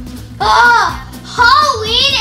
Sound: assistant groans

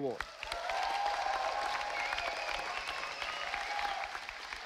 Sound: audience applauding

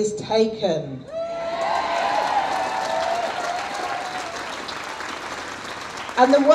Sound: audience cheers

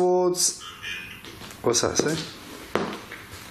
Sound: Ovilus buzzes

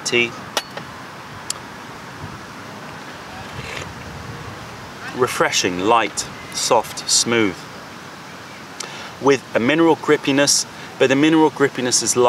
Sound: sips tea

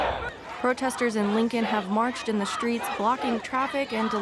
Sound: crowd

